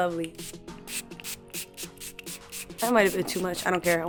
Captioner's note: spritzing